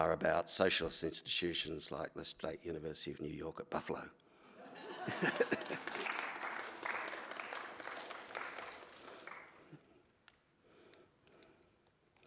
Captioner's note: laughter & Applause